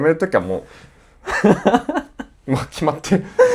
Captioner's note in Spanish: risas